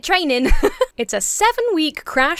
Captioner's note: laughs